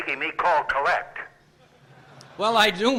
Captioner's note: via Telephone; laughter